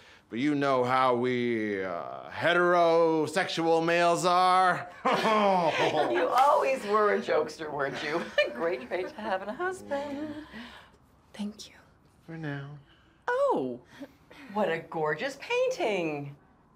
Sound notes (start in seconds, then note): 5.0 everyone laughs